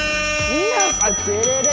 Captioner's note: buzzer